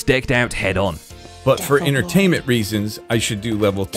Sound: whispering

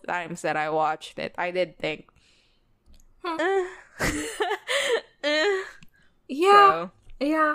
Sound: laughs

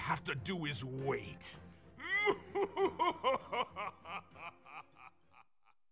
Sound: evil laugh

